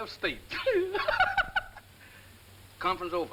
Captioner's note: laughing